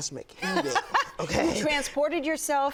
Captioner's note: blonde woman laugh